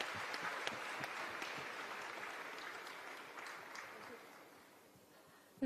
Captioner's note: laughs; applause